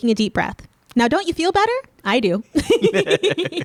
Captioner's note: laughing